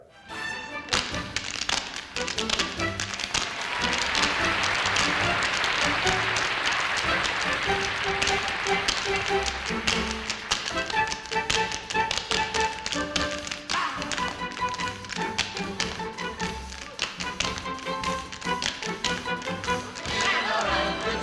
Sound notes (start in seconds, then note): 0.2 music and tapping; 3.3 applause; 11.6 music and tapping; 15.1 music and tapping